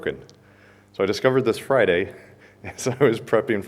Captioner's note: chuckles